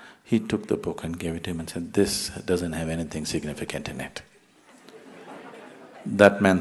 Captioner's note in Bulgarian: Смях